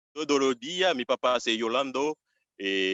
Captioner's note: speaking Foreign Language